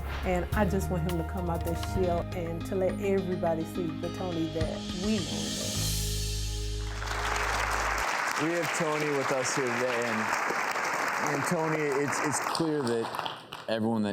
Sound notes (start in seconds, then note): 6.8 audience clapping